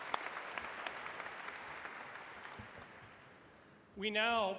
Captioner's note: applause